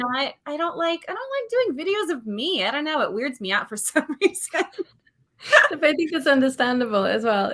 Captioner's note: laughs